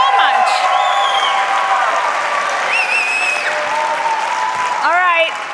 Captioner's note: cheers and applause